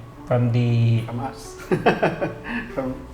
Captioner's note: laughs